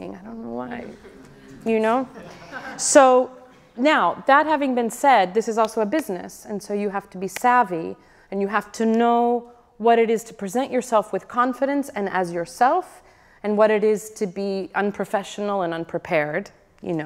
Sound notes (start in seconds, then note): 2.0 audience laughs